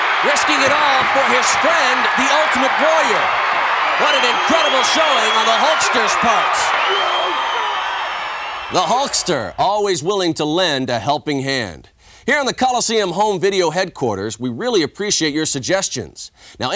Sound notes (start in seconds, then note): 7.3 audience cheering